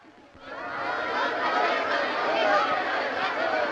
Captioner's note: crowd shouting